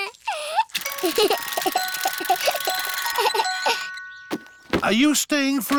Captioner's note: alexander giggles